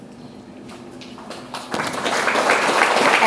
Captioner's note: audience applauds